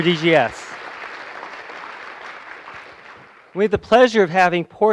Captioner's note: applause